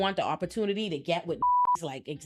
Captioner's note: beep